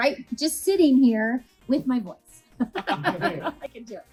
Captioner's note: laughs